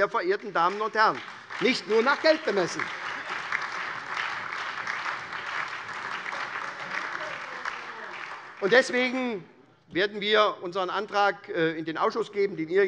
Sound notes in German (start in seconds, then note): 3.1 Beifall SPD, AfD, Freie Demokraten und LINKE